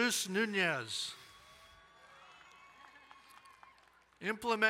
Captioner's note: crowd cheering and applauding